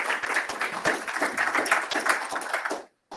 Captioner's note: applause